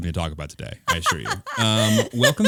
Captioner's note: laughing